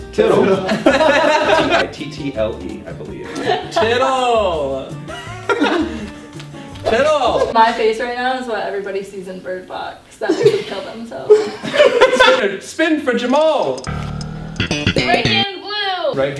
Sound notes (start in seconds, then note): 0.3 laughter; 5.1 laughs; 11.2 laughter